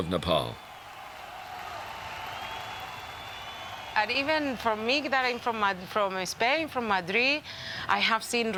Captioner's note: applause